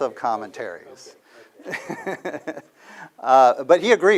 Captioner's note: laughter